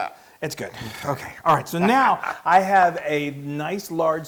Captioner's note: laugh